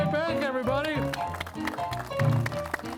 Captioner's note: audience clapping; piano playing